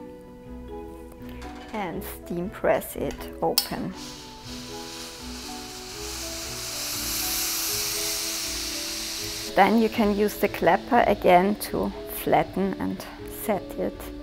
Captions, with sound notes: and steam press it open. (iron hisses) Then you can use the clapper again to flatten and set it.